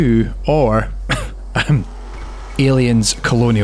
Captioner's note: ahem